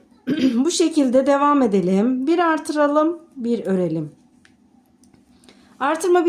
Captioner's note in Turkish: boğazını temizler